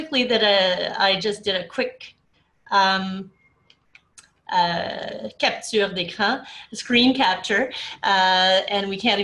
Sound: speaking french

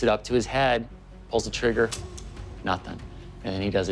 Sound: gun clicks

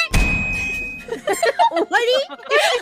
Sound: group Laughter

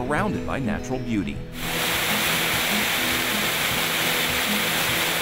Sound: water flowing

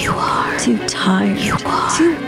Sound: whispering

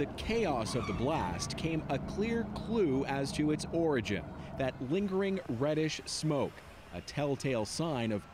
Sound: sirens

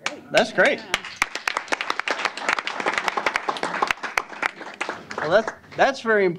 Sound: applause

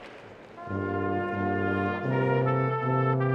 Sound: applause

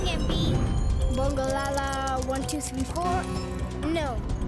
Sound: chimes

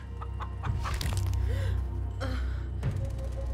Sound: gasp, bones crunch

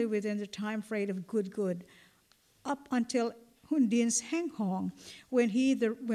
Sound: non-english

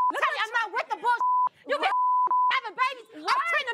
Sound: beep

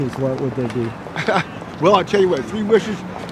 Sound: chuckles

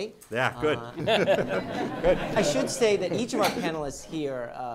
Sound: laughter

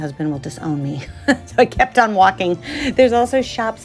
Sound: laughs

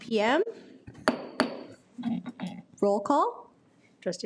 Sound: gavel bangs

